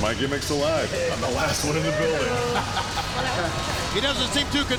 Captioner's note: laughs